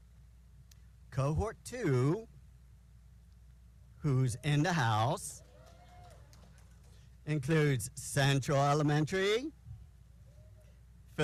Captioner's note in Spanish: aplausos